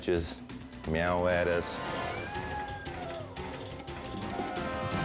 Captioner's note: cat meows